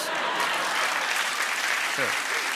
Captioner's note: laughter